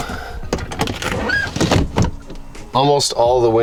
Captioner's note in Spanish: La ventana cruje